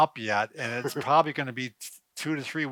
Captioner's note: chuckles